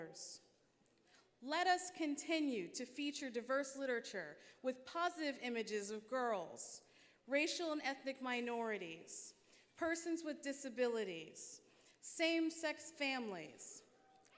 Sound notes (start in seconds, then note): none